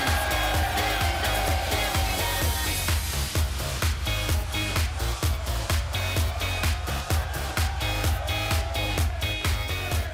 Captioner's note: cheers and applause